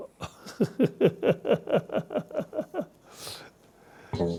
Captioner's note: laughs loudly